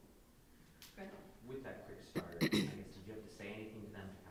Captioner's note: clearing throat